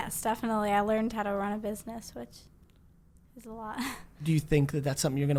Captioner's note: laughs